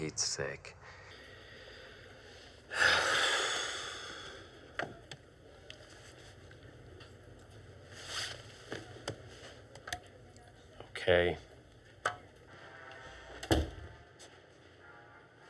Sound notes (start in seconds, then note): 2.6 sighs; 13.4 door closes